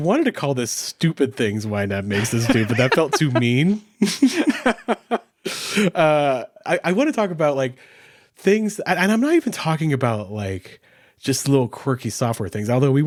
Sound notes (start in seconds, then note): 2.1 laughs; 4.1 both laughing